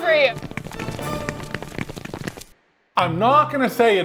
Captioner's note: footsteps pattering; gentle classical music